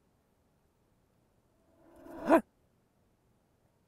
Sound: animal like grunt

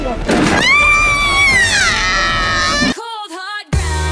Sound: gasps

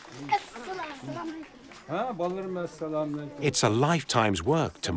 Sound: applause; speaking Uyghur

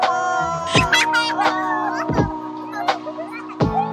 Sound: sweet laughter

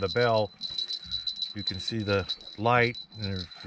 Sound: jangling

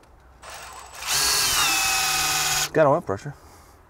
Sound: drill humming

